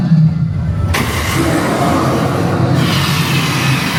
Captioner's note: dragon growls; flame blares